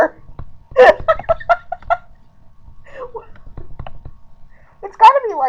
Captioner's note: laughing